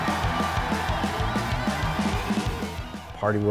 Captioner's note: crowd cheering